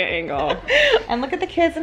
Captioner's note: laughing